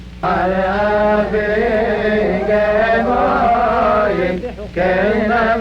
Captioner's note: chanting in foreign language